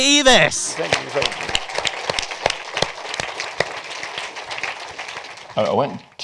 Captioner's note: applause